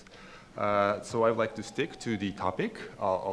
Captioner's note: siren sound